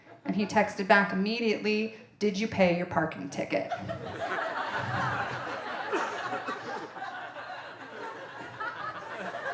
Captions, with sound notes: And he texted back immediately, "did you pay your parking ticket?" (audience laughing)